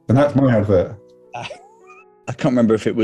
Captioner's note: sniggering